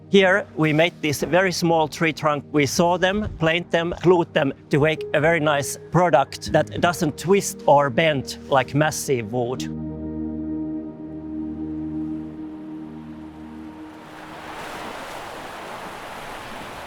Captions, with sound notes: Here we made these very small tree trunk. We saw them, plant them, clothe them to make a very nice product that doesn't twist or bend like massive wood. [tranquil music] [water lapping]